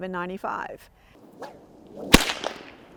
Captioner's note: whip crack